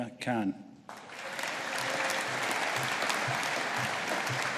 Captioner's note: audience applauding